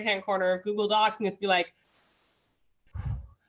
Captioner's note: deep breath